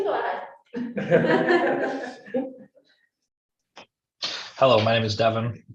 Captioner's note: all laughing